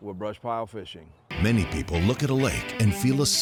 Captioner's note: voiceover